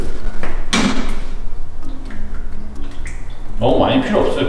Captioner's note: pouring